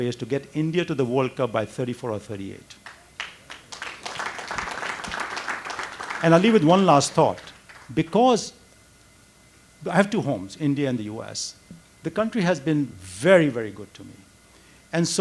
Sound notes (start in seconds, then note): 2.8 audience applauds